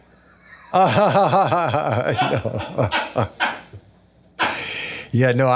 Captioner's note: laughs